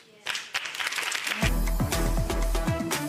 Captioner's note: audience claps; dramatic music